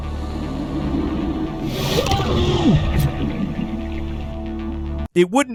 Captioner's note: character grunts